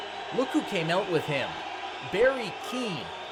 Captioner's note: audience boos